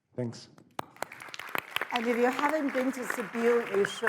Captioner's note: audience applauds